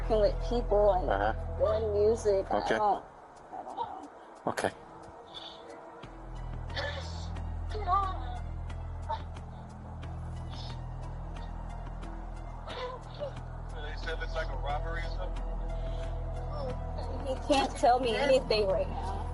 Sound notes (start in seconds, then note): 6.1 crying on phone; 8.9 suspenseful music